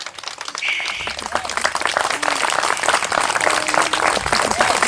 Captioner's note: applause